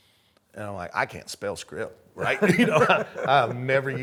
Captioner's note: laughing